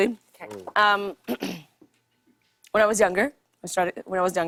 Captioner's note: clears throat